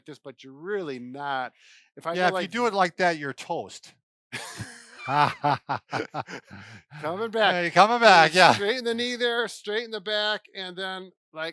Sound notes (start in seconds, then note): 4.3 both laughing